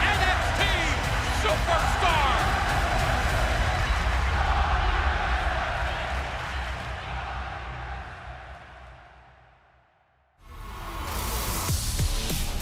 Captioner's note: crowd cheering